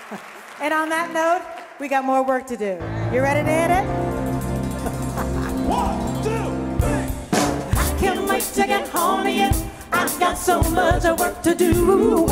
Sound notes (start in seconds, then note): 4.7 laughs